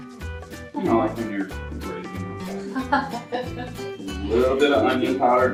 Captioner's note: laughs